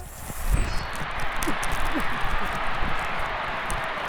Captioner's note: crowd cheering